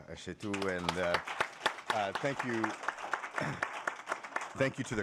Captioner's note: applause